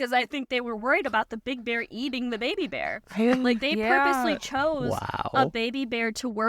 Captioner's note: gasps